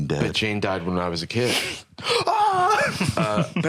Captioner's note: gasps